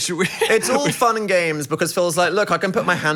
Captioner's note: laughing